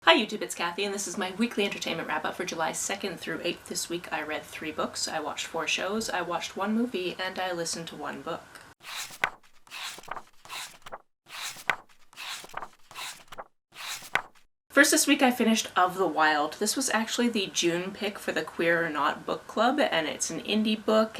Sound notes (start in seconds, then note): 8.8 pages turning